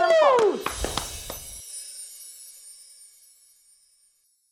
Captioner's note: applauding; soft chiming